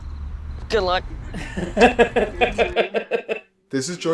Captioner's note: laughs